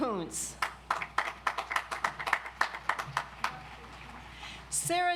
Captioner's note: audience applauds